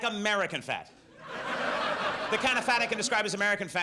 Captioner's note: audience laughs